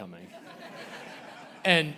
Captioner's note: audience laughing